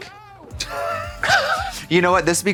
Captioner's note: blonde Women snicker